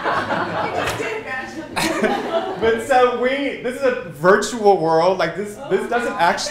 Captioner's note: laughter